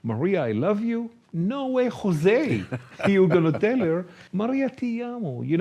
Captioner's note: chuckles